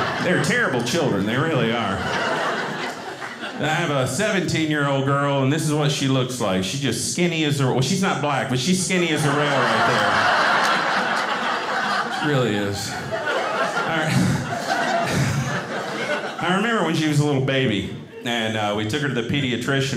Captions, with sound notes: They're terrible children. They really are. I have a 17 year old girl and this is what she looks like. She's just skinny. Well she's not black, but she's skinny as a rail right there. (audience laughing) She really is. I remember when she was a little baby and we took her to the pediatrician,